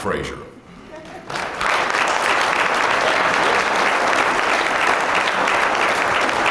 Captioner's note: applause